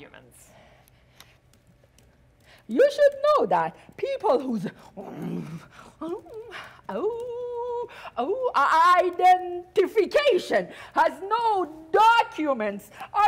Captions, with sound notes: Documents? You should know that people whose (softly growls) (softly howls) identification has no documents